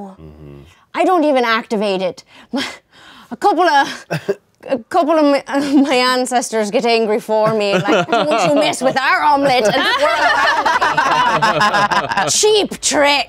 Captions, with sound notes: I don't even activate it. A couple of my ancestors get angry for me. "Don't you mess with our Omelette!" (everyone laughing) Cheap trick!